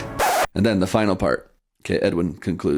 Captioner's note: record scratch, music halts